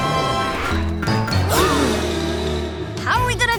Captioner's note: gasping